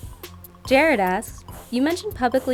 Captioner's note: voiceover